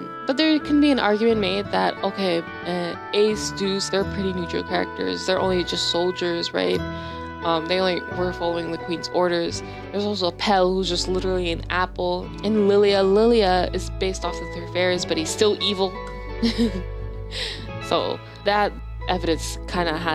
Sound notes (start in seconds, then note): 17.0 laugh